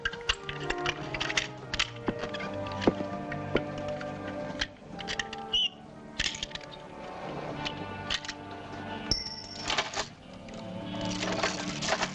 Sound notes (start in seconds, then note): 0.0 clinking; 7.4 key drops on floor, padlock rattling